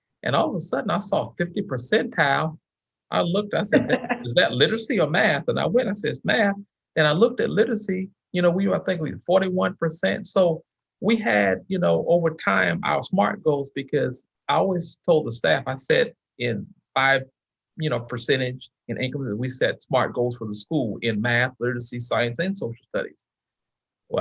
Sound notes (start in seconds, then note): 3.6 chuckles